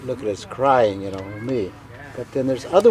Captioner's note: speaking in foreign language